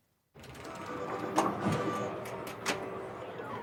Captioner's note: pinball sounds